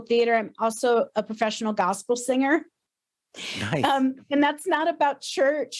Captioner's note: chuckles